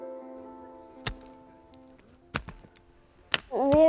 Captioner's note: shovels impacting earth